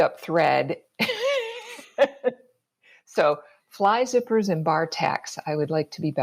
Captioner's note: laughs